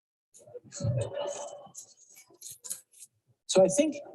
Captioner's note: audience laughs